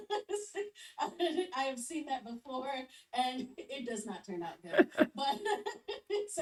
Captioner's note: laughs; both chuckle